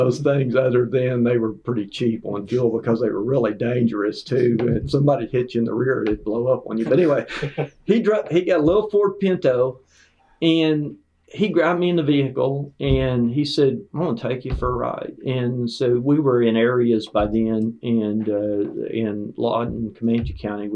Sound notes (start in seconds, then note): 6.8 laughter